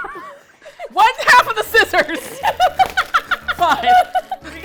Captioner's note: both laugh; laughs